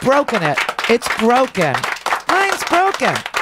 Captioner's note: audience applause